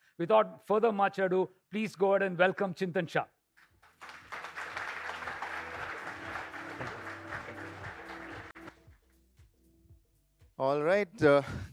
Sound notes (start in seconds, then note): 3.6 applause